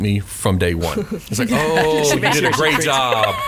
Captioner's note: laughs